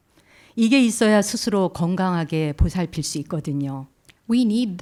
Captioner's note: speaking in Korean